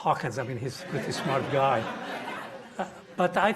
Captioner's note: audience laughing